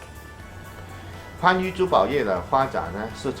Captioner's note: speaking chinese